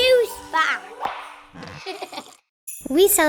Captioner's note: graphics pop; child giggles